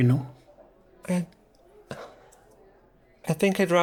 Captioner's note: sighs